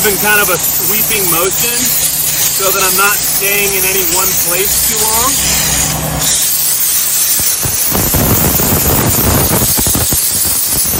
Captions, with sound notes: in kind of a sweeping motion, so that I'm not staying in any one place too long. (steam spraying continues)